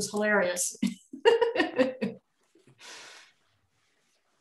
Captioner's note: chuckles